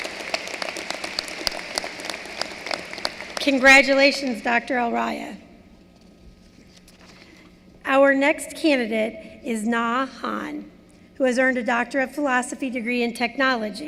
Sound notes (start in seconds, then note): 3.0 applause